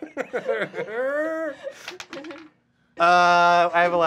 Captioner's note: dice clacking